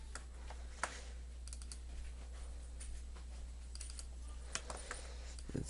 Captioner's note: clicking